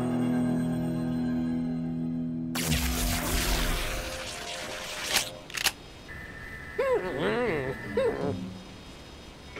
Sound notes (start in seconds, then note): 2.5 electric buzzing; 5.5 clicks